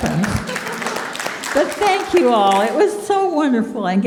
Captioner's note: audience applauding